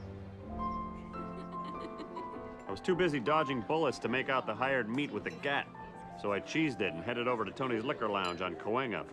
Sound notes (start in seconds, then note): 0.2 soft piano music plays; 1.0 chuckling